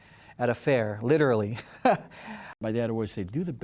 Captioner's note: laughing